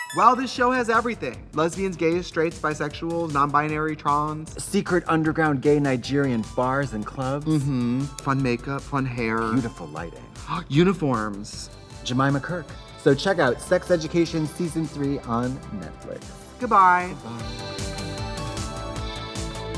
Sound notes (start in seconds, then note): 10.3 gasps; 17.3 fun music